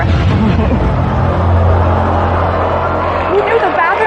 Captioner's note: contestants gasp